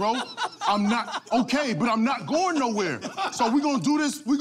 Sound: laughter

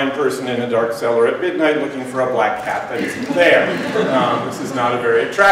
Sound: laughter

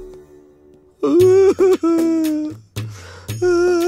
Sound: crying

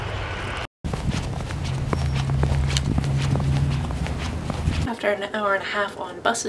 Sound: crunch crunch crunch

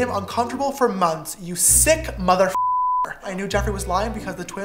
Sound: beep

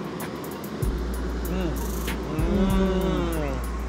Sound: eating

